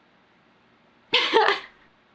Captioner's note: laughs